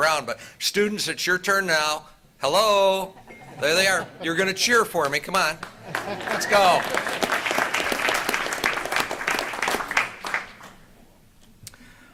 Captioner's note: applause